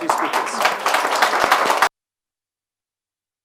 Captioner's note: applause